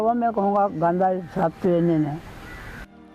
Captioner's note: insects